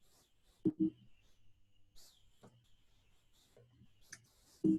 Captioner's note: computer beeps